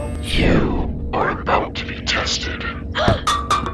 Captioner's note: strange, intensely deep voice; Naomi gasping, objects clanging